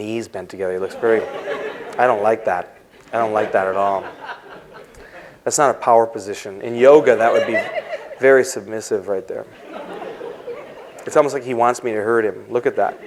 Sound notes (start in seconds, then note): 2.6 laughter; 6.8 laughter